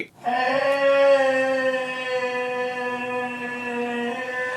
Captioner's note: moaning loudly